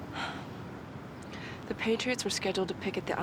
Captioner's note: sighs